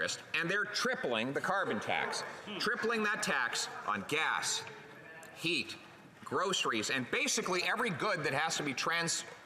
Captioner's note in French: voix de l'interprète